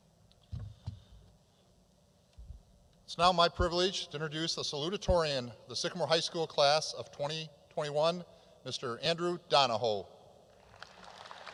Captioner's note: applause